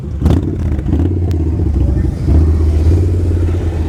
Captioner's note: engine rumbles